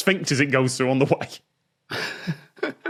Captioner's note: giggles; cracks up